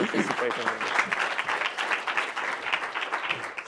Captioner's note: applause